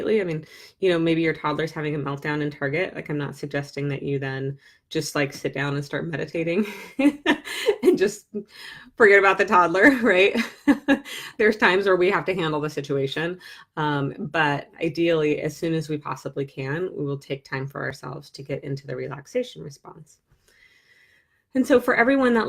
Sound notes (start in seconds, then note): 6.8 laughs